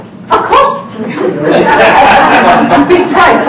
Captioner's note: laughing